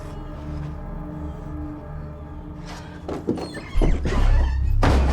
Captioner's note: Shelby breathing heavily